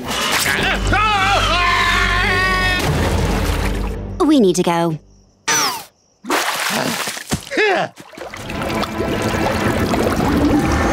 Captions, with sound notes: [groaning] [crashing] We need to go. [grunting]